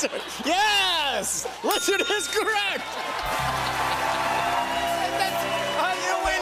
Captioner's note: cheers and applause